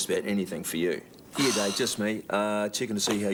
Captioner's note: Jodie sighs